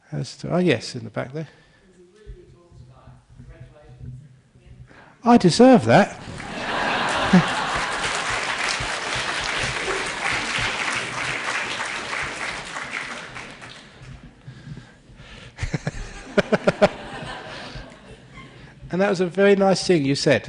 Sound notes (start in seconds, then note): 6.2 laughter; 6.2 clapping